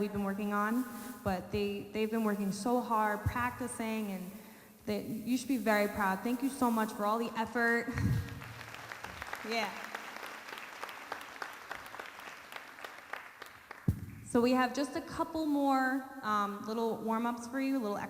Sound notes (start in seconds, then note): 8.2 audience applauding